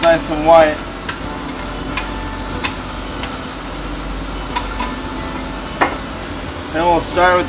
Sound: cracking sounds

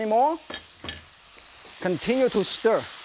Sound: bowls clink

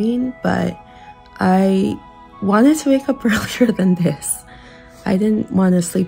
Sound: chuckles

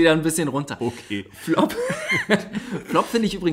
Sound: laughs

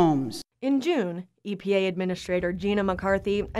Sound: voiceover

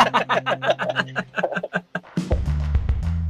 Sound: laughs

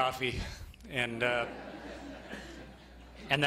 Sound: laughter

